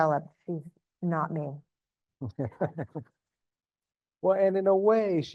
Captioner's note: chuckles